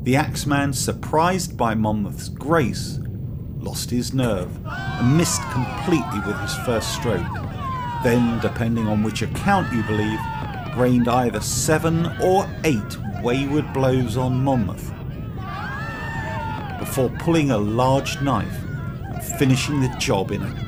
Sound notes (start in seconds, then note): 7.1 crowd shouting